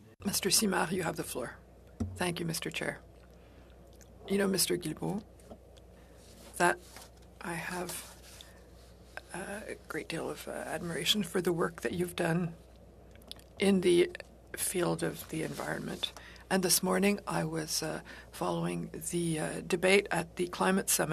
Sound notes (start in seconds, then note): 4.4 speaking French